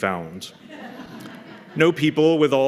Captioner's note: laughter